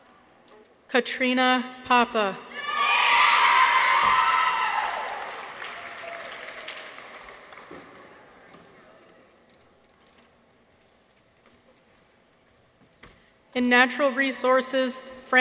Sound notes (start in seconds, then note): 2.5 people cheer; 3.2 audience applauds